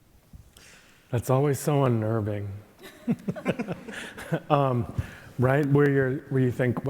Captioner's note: chuckling